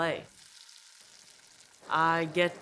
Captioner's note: pan sizzling